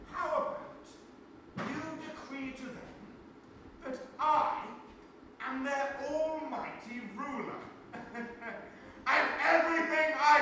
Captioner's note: chuckles evilly